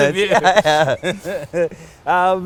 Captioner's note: laughs